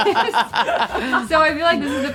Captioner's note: group laughing